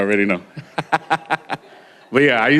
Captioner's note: laughter